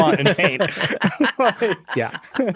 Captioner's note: group laughing